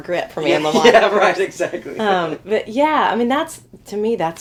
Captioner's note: laughing